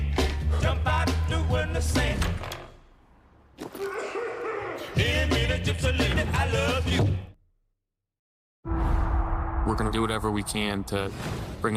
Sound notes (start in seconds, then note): 2.1 door creaks; 3.8 coughing